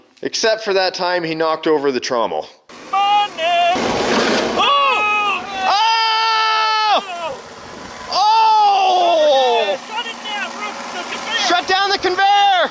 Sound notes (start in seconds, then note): 4.2 men exclaiming; 4.5 screaming